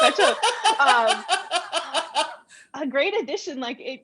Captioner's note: laughter